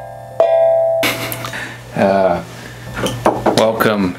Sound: laughing

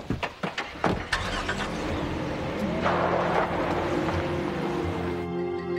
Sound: car engine revving; somber music

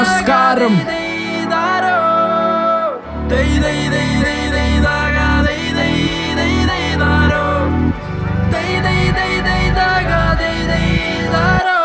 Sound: Kerala Festival Celebration Chants

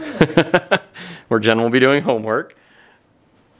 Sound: laughs

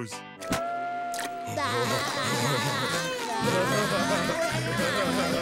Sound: laughing

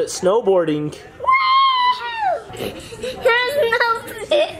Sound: both laughing

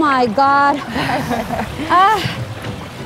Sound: ladies laughing; laughing

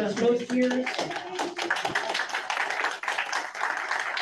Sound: audience claps

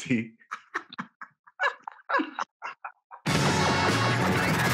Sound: both laughing; upbeat music

